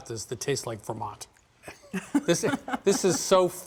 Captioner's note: laughs